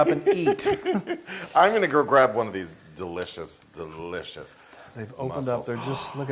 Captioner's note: laugh